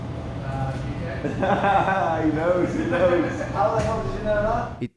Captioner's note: laughs